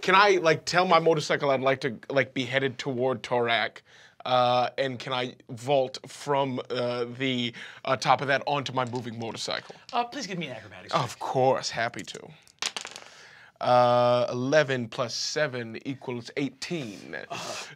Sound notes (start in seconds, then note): 11.9 dice clack